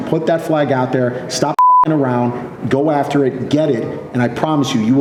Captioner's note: beep